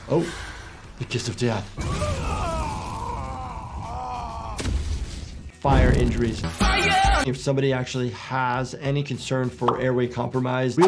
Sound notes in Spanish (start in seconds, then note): 1.8 fuego crepitante; 2.1 Superman gritando